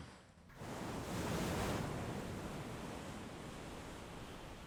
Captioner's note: waves crash